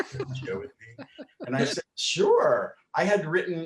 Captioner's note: laughing